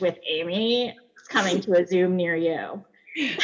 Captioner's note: laughs